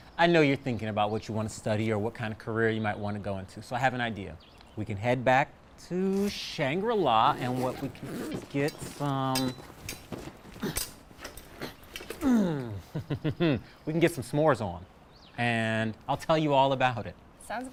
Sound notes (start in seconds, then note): 12.0 groaning; 12.0 laughing